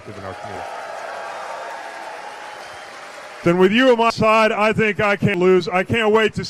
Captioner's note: cheers